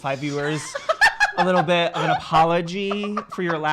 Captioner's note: laughing